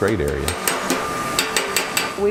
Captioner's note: hammering on metal